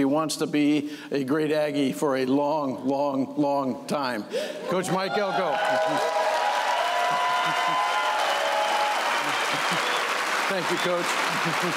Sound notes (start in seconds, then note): 4.9 cheers and applause